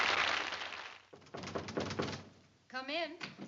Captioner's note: knock at door